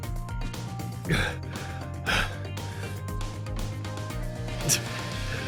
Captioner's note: pant